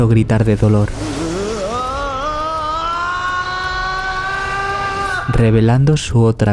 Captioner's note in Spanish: gritos